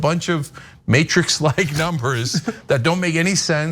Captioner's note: laugh